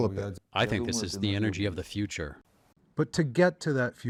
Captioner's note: through translator